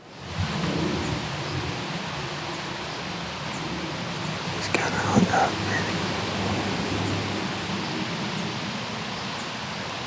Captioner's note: whispering